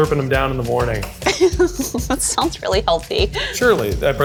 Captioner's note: laughs